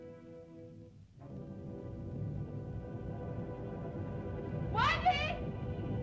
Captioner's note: whimsical music; ominous music; volcano rumbles